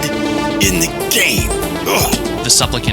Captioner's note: grunts